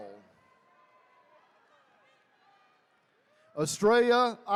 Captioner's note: attendees cheering